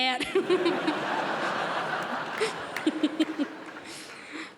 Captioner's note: crowd laughs